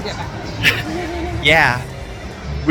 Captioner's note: laughing